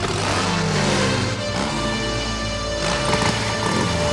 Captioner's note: motorbikes rumbling